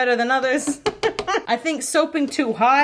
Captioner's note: giggles